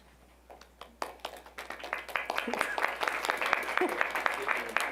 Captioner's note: applause